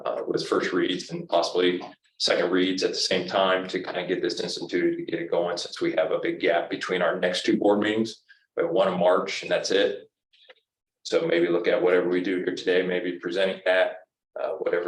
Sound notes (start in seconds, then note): none